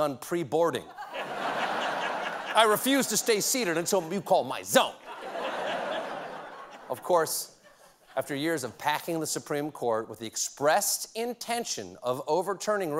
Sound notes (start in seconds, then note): 1.2 laughter